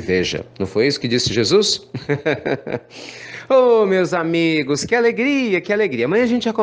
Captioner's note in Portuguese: risos